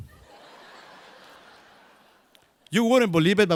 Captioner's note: crowd laughs